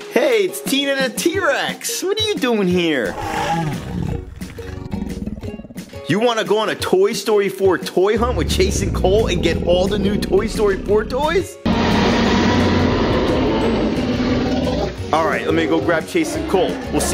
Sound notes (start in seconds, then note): 3.0 dinosaur roar; 11.3 loud dinosaur roar